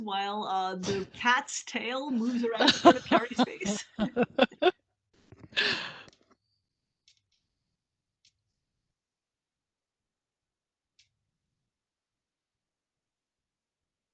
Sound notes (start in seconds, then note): 4.9 laughs